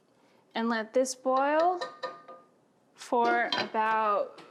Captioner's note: taps utensil